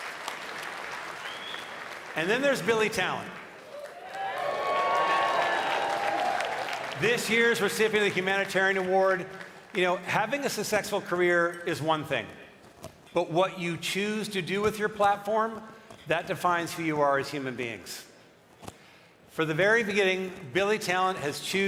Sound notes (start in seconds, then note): 9.5 cheering and applause